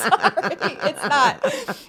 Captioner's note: both laugh